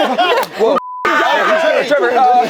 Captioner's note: beep